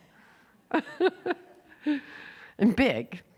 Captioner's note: laughing